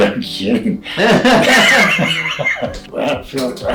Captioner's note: both laughing